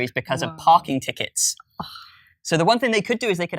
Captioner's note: gasp